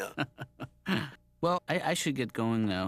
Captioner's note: laughs